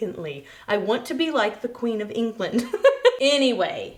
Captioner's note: chuckles